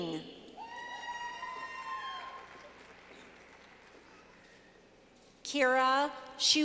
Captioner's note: clapping